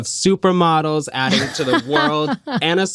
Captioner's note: laughter